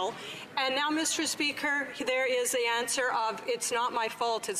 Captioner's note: none